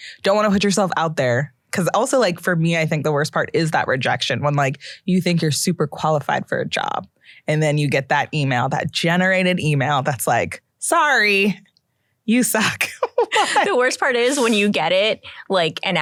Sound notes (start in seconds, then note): 12.9 laughs